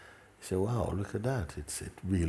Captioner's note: none